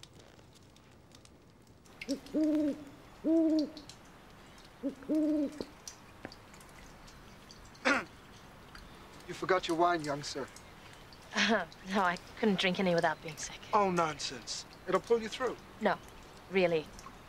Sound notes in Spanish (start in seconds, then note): 2.2 búho ululando; 7.8 Voss se aclara la garganta